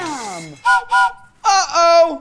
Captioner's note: train whistle blowing